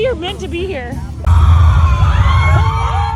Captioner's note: person screaming